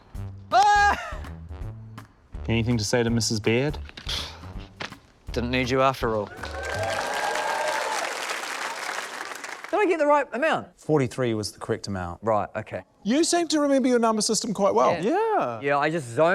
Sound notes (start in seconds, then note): 4.0 scoffs; 6.2 cheering, applause